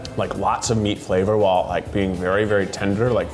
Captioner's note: none